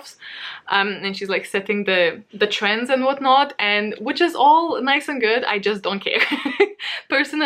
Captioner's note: laughs